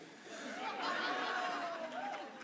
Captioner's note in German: Lachen